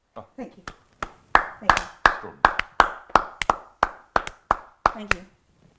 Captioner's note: clapping